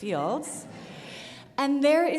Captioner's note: audience laughs